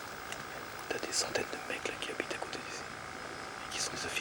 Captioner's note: French spoken audio